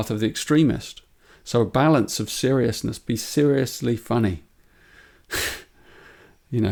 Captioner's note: chuckles